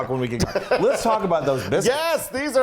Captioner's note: laugh